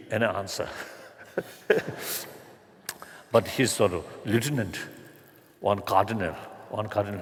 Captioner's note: laughter